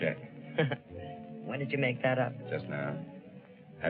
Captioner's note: chuckles